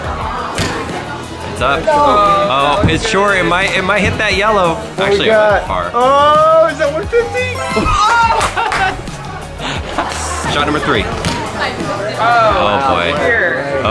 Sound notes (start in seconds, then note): 8.7 laughs